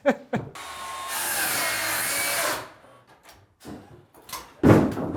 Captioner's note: laughs; sawing sounds